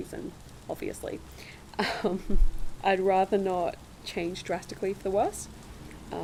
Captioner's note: laugh